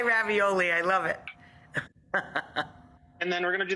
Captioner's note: laughing